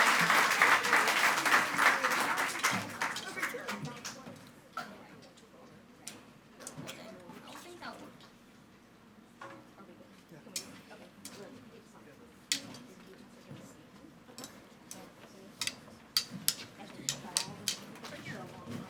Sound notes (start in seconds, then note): 0.0 audience applauding and speaking faintly; 6.9 speaking faintly; 11.9 speaks faintly